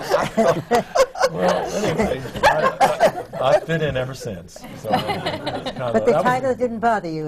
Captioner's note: laughter